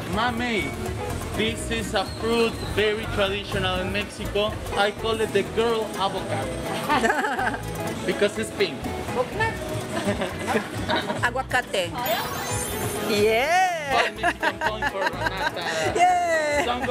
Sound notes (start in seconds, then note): 6.9 laughs; 11.9 in Spanish